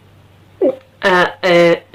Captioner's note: gulp